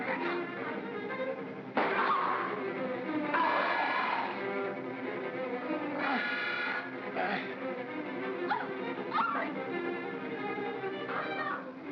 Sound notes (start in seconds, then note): 0.0 ominous music; 1.7 Barnaby groans; 4.9 ominous music